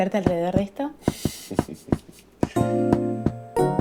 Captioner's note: laughing; playing Piano